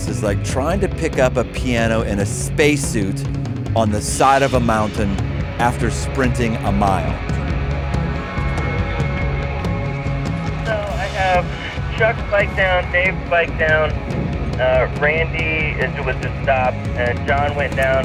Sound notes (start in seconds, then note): 11.1 voice on Radio